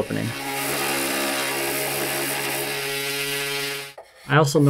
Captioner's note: machine whirs